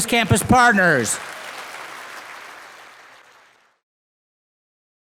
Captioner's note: audience applauding